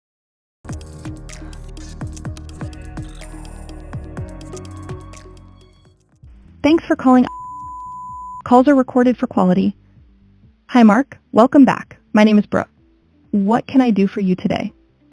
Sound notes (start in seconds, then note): 0.6 energetic music; 7.1 beep